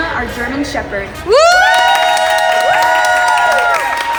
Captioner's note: staff applauds